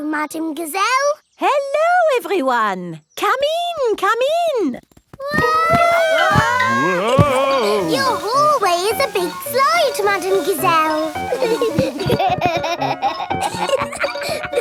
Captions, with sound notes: Hello, Madame Gazelle! Hello, everyone. Come in! Come in! (ALL YELLING) Your hallway is a big slide, Madame Gazelle! (GIGGLING)